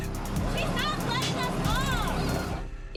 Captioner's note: child speaking